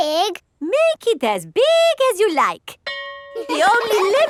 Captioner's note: school bell rings; children laughing